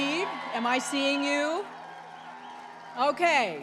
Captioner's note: applause